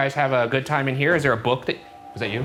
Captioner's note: ship bangs